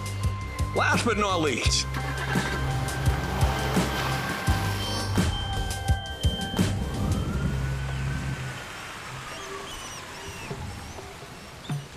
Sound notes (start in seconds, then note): 1.9 engine starts, revs; 5.1 distant siren whines; 7.6 rain pouring; 9.3 squeaking